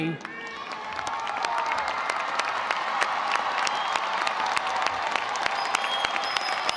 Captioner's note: audience applauding; audience cheering